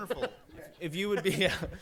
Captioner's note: laughter